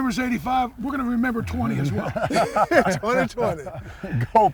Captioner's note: laughter